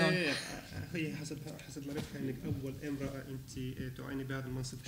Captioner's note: speaking arabic